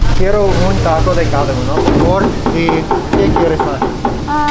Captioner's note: speaks Spanish